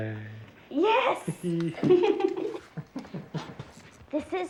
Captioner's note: all laughing